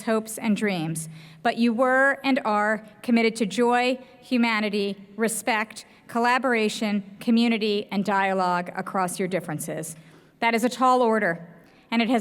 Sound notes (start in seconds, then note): none